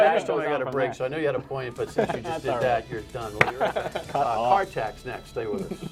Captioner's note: laughter